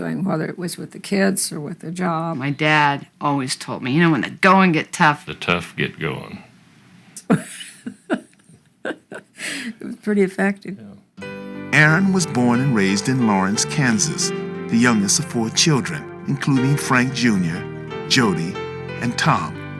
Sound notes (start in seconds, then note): 7.3 laughs